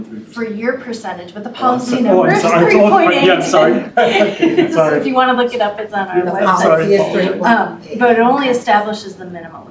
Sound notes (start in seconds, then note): 2.2 laughing